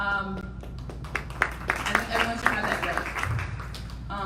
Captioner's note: audience applauding